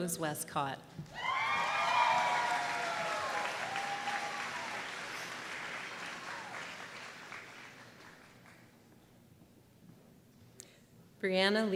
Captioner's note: applause